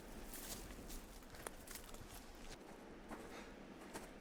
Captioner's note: footsteps